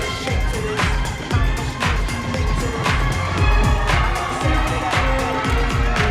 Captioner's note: cheering